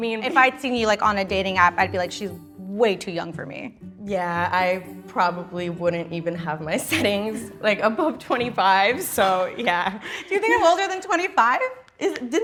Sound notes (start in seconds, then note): 10.0 gasps